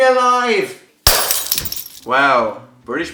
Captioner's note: glass breaking